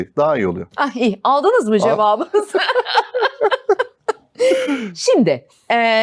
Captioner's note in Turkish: kahkaha